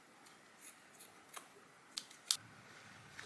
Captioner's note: snipping sounds